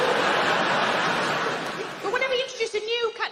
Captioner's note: crowd laughing